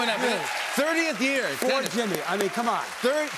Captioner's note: cheers and applause